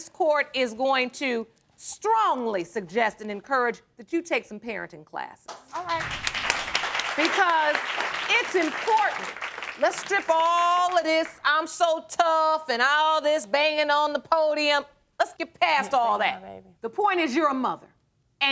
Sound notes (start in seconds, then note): 5.5 audience applauds